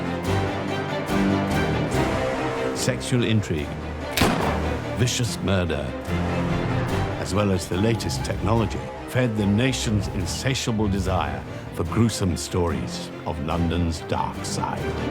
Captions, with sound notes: - Sexual intrigue, (gun fires) vicious murder, as well as the latest technology fed the nation's insatiable desire for gruesome stories of London's dark side.